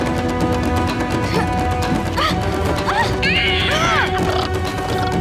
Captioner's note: grunting